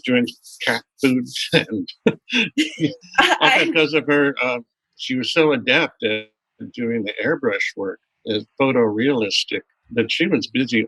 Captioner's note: laughter